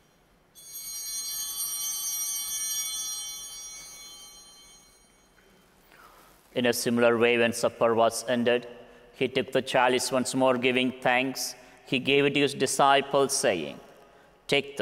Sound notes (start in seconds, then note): 0.5 bell ringing